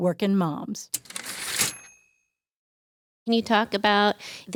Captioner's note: typewriter ding